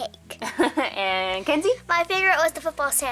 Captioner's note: chuckles